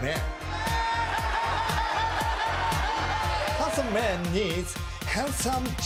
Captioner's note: laughs